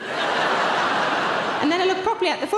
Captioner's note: audience laughing